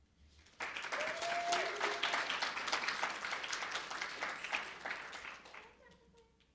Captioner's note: audience cheering and applauding